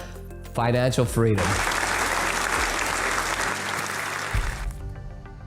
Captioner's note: applause